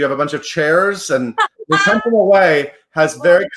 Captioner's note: laughs